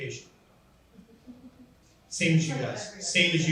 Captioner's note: laughs